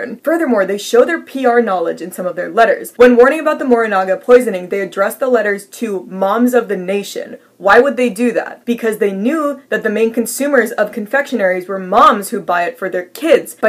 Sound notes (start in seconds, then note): none